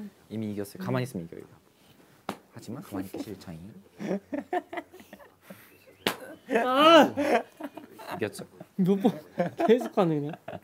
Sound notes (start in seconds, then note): 2.2 smack; 3.9 haha; 6.0 smack